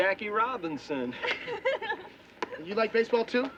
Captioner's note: girl laughs